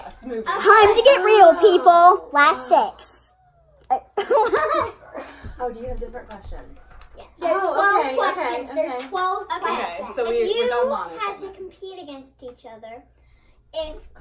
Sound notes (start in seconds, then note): 4.1 laughs